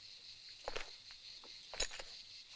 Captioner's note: none